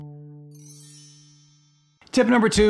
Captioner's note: bells tinkling; upbeat music